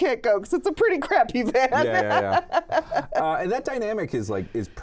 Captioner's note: laughs